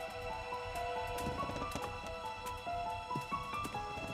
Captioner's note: suspenseful music; steps creak; mellow music